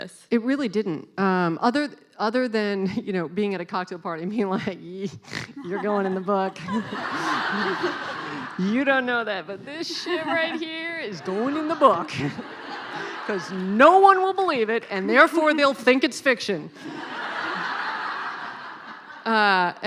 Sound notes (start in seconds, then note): 6.8 laughing; 12.4 laughing; 16.8 laughing